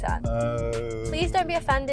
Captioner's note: groans